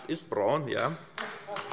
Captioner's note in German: Heiterkeit und Beifall AfD